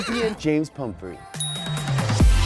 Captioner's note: ding; electronic dance music